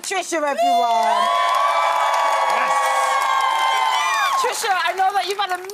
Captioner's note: crowd cheering